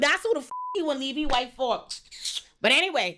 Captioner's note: beep